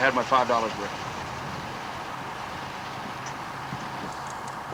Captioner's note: engine rumbling